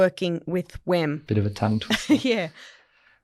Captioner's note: laughs